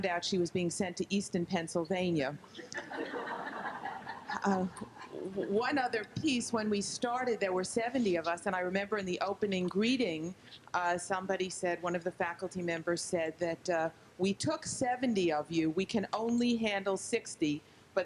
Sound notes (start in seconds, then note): 2.6 group laughs